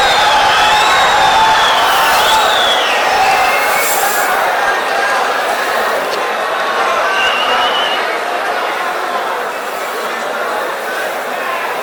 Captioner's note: wild applause and cheering for 22 seconds